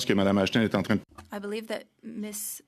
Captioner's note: speaking French